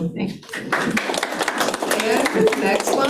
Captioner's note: attendees clapping